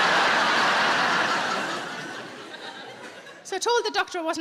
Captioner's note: audience laughs